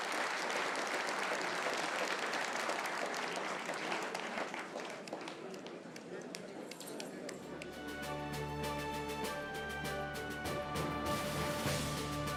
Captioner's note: applause